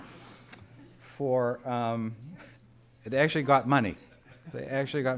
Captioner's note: laughter